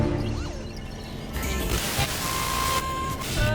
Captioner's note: radio channels cycling